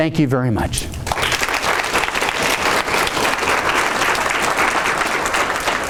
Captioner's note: audience applauding